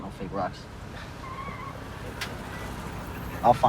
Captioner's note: tires squealing